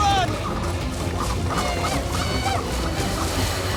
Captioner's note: speaks tribal language